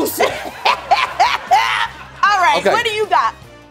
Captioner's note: laughing